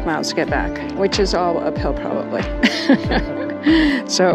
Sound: laughing

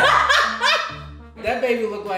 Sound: laughter

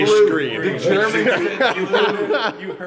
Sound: laughter

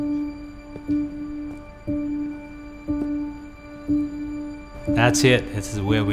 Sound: piano music plays; footsteps

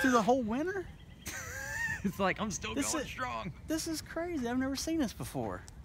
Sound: laughter

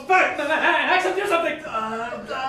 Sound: stammering

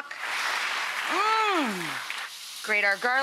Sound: audience applauding

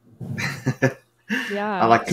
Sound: chuckles

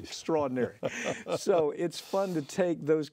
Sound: laughs

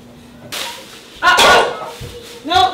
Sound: crashing

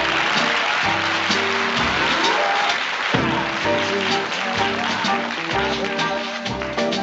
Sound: applause

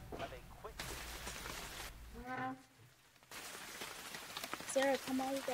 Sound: rain splattering; door squeaking

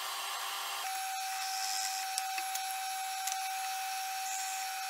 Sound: drill press whirring

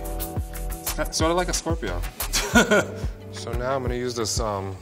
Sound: laughs

